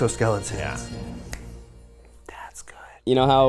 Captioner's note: clicking fingers